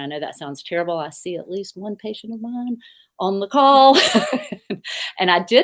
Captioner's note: laughs